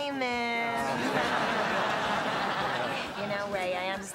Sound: laughter

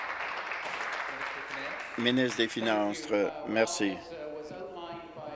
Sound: applause

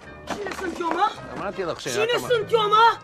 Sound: speaks in foreign language; Borat speaks in foreign language; speaks in foreign language

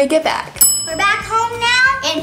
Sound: bell dings

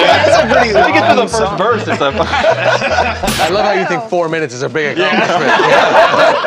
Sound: laughter

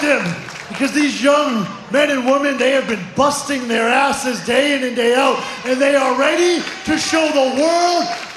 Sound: crowd chanting "2.0"

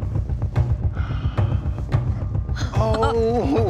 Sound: gasps; laughing

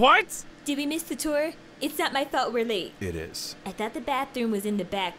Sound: none

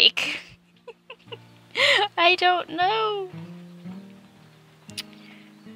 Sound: hopeful laugh

